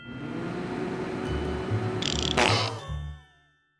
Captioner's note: heater rumbling; coughs, dies